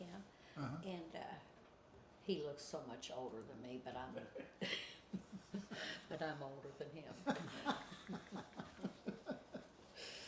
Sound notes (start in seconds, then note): 7.6 laughs